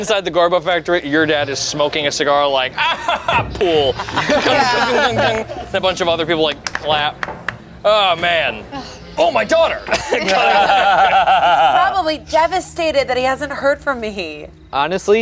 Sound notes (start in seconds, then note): 2.7 laughs; 2.7 group laughs; 9.8 group laughs